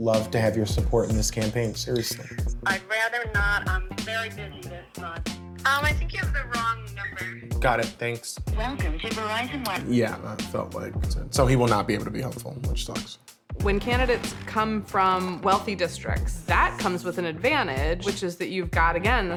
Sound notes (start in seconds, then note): 8.7 Robotic voice; 9.6 mouse clicks